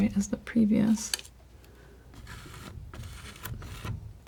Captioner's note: scratching